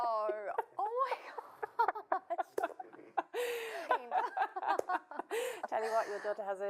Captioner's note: laughing